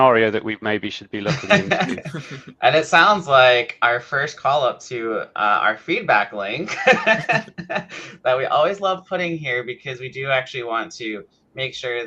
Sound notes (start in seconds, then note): 1.2 people laughing; 6.6 laughs